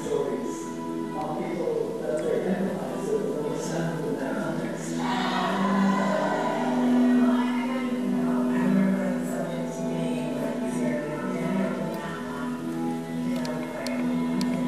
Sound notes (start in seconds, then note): 7.0 women shouting